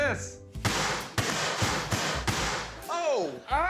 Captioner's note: confetti cannon